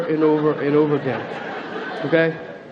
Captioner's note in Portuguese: Platéia ri